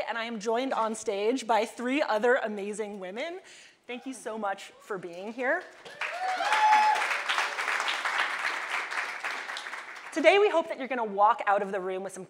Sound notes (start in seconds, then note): 5.8 audience applauding